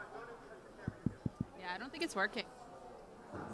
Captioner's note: tapping on mic